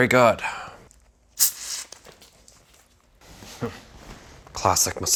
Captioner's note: soda fizzing